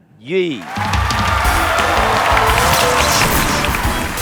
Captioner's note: clap